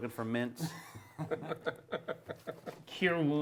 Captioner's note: laughter